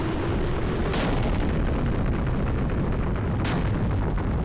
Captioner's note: booming